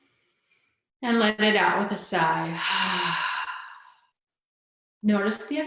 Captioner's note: sighs